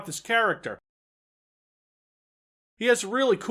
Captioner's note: dead silence